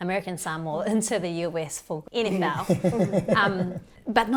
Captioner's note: laughs